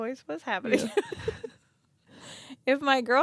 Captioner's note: laughs